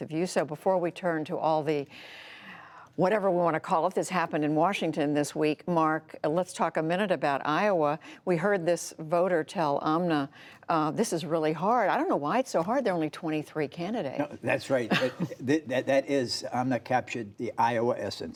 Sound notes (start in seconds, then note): 14.8 laughter